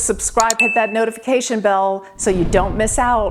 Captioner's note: bell dinging